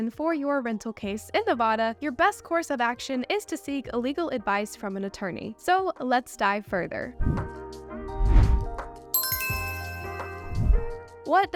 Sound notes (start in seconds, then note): 7.3 bright music; 8.2 air swooshes; 9.1 logo chimes